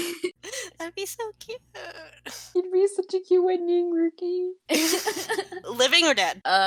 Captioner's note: laugh